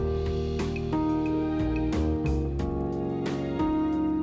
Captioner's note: boat motor whirring